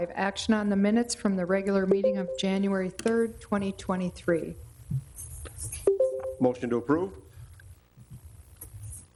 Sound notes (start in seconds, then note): 5.9 bell dings